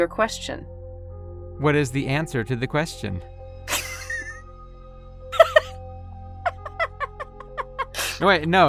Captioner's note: laugh